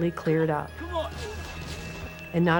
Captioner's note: explosions